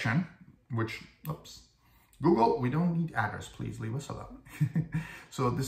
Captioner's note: laugh